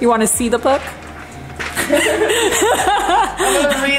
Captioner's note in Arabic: يضحك